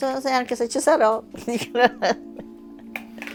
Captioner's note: laughs